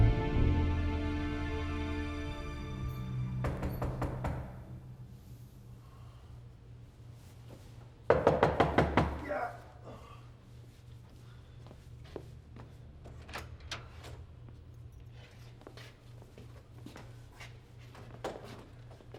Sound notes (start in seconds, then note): 3.4 knocks on door; 8.1 knocks on door; 9.9 grunts